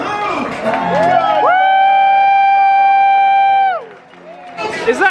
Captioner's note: audience cheering